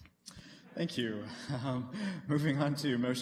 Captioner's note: laughter